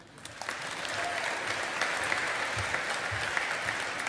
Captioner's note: audience applauding